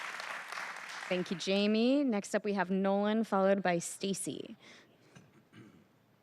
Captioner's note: applause